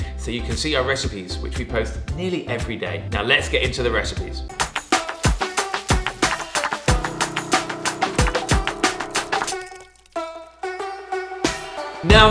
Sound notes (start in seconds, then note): 4.5 meat sizzling; 5.0 upbeat music; 9.7 jolly music